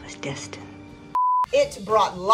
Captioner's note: beep